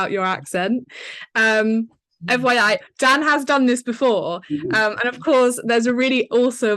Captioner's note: laughing